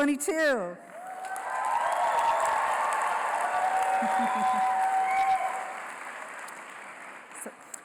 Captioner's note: applause